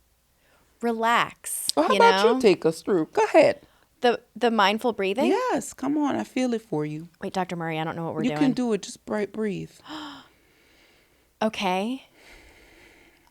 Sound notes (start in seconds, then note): 9.8 gasps